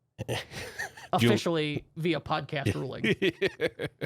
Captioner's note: softly chuckling